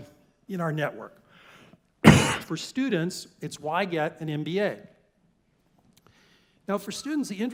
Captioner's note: cough